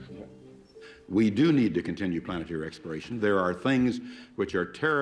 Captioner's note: laughing